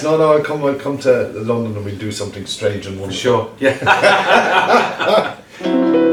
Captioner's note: laughs